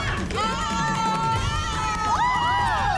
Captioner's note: yelling; women shouting